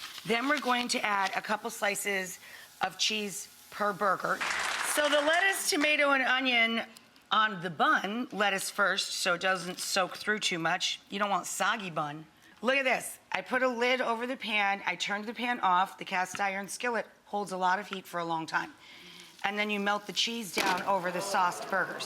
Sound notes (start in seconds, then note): 4.4 audience applauds